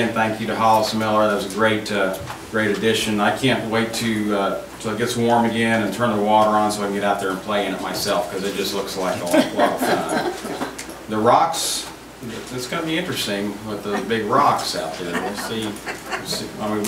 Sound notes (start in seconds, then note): 9.2 group laughs